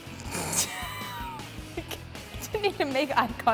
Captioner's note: laughing